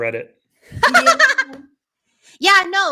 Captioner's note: laughing